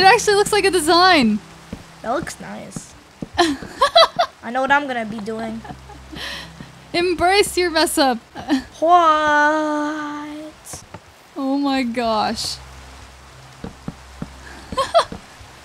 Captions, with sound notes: It actually looks like a design. - That looks nice. I know what I'm gonna be doing. - Embrace your mess up! - What? - Oh my gosh. (laughs)